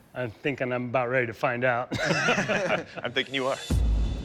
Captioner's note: laughter